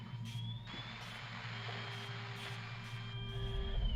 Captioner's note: static, shrill sound; loud humming in crescendo